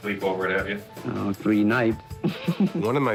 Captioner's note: chuckles